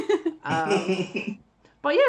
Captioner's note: laughs